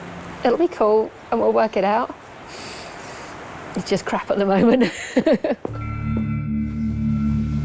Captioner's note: laughter